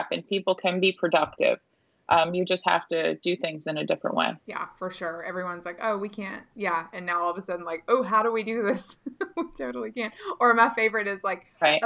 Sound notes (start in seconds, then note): 9.1 laughing